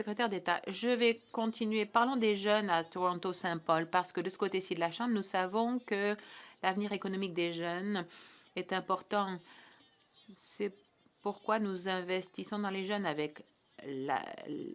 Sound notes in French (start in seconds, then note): 4.1 voix de l'interprète